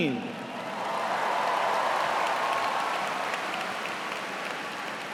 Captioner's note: cheers and applause